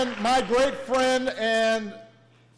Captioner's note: applause